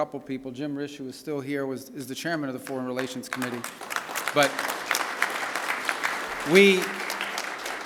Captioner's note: applause